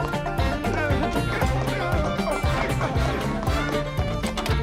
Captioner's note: Homer yells